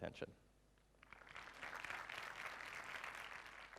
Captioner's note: applause